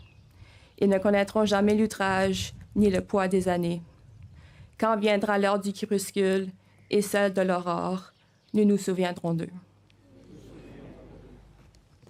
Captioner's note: speaking French